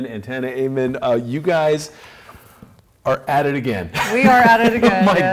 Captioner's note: laughs